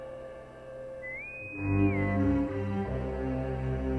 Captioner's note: intercom whistles